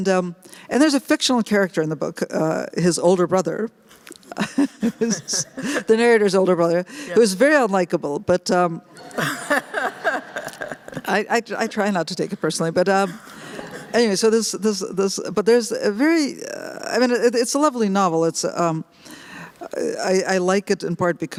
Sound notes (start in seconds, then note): 4.3 laughs; 9.0 laughter